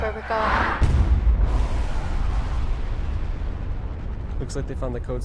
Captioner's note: nuclear bomb explosion